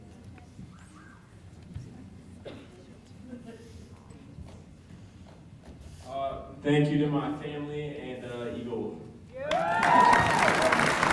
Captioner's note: applause